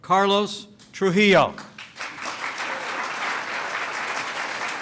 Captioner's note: applause